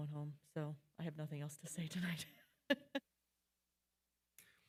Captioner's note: laughing